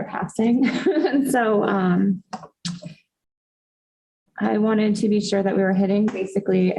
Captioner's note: laughter